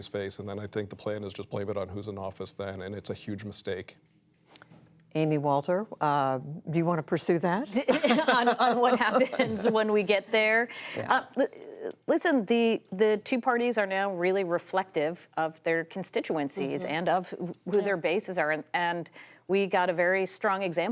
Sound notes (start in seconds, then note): 7.8 laughter